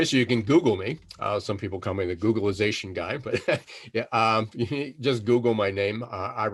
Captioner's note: laughing